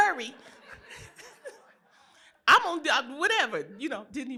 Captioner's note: laughter